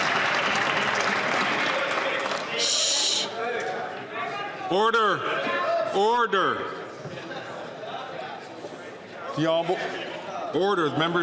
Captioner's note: applause